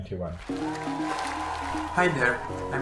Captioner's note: applause